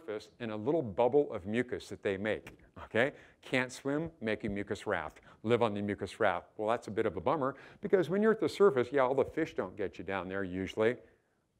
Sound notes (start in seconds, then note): none